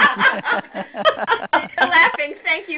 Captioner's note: laughing